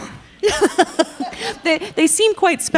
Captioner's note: all laughing